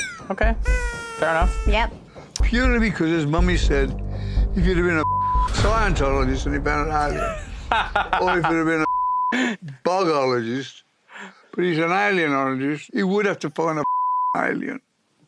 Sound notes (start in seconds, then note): 7.0 Jack laughs